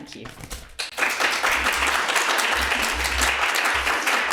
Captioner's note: audience clapping